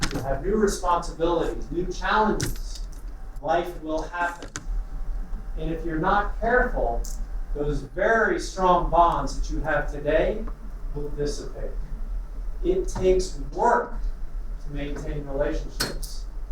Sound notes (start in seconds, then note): none